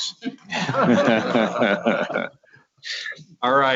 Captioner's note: laughing